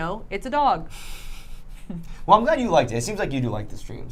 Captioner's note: laughing